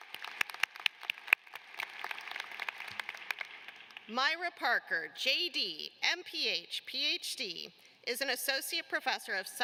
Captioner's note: applause